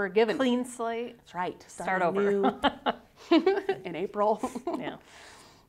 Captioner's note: laughing